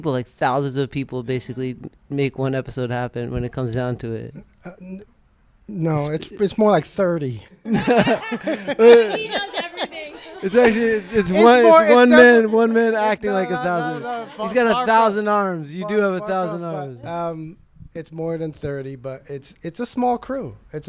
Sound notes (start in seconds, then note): 7.7 all laughing